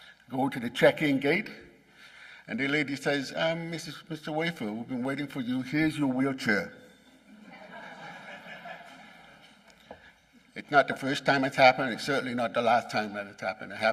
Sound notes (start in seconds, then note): 7.3 laughing